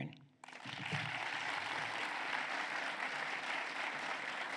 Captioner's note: applause